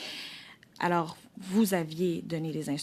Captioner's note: speaking French